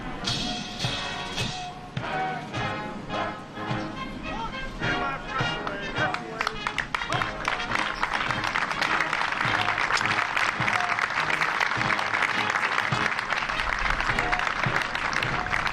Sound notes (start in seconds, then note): 6.9 applause